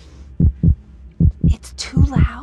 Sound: whispering; heart beat gets louder and faster; whispering

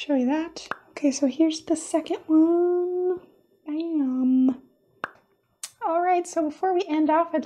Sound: pop!

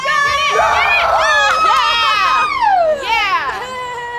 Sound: cheering

